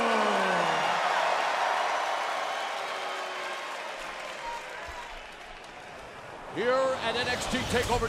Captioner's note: crowd cheering